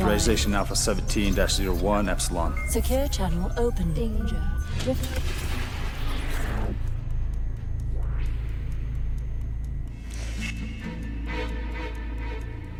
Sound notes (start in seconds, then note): 6.3 dark music plays; 9.3 clock ticking